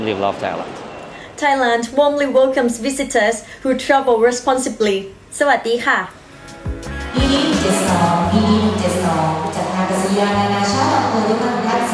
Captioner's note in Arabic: لغة أجنبية